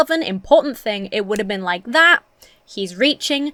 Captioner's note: snaps fingers